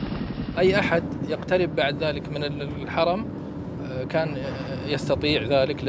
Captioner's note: speaking in Arabic